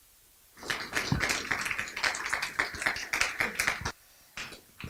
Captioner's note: applause